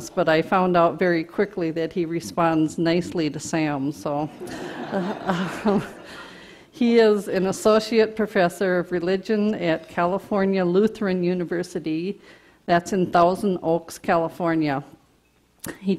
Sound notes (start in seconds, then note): 4.3 audience laughter